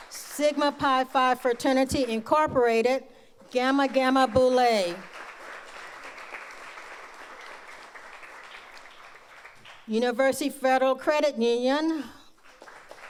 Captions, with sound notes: Sigma PI five Fraternity Incorporated Gamma Gamma Bole. (audience applauds) University Federal Credit Union.